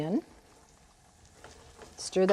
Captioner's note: sizzling